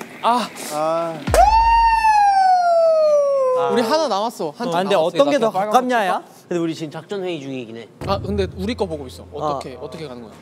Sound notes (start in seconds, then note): 1.3 cheering like a siren